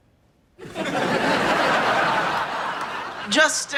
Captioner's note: audience laughing